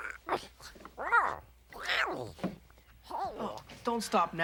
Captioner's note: Tasha babbles